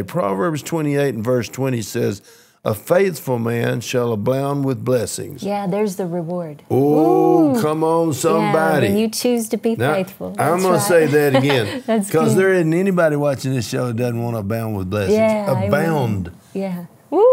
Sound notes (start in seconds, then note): 10.8 laughs